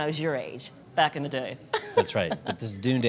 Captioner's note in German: lacht